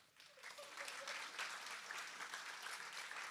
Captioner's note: applause